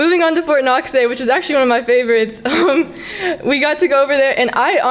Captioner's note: laughs